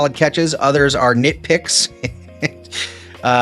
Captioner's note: chuckles